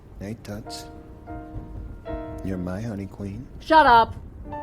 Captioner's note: none